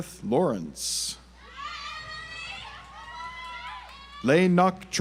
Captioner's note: audience applauds